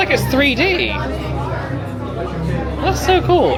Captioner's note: crowd chattering